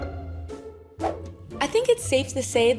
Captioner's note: screen whooshing